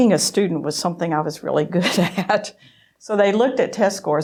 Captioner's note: laughing